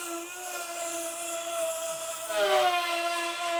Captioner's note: none